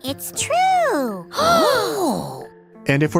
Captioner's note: gasps